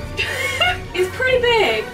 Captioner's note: laughs